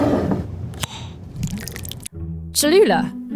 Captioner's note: lid opening; jar sliding; salsa pouring